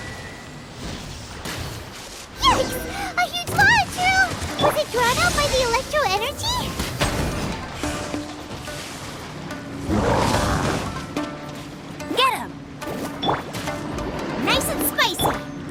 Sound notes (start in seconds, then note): none